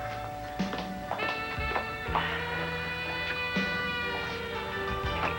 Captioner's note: ring